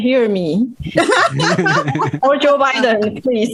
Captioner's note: risas